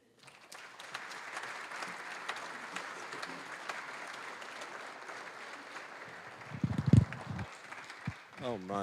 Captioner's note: applause